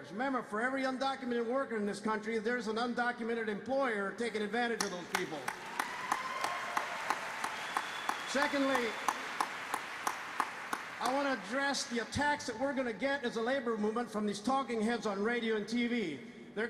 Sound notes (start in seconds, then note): 4.8 applause